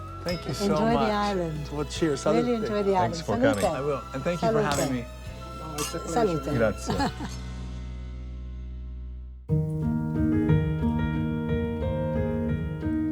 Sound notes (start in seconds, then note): 6.0 glasses clink; 6.8 laughs; 9.5 tranquil music